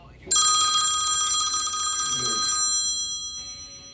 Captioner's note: phone rings